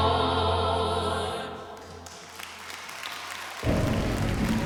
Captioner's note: applause, cheering; dramatic music playing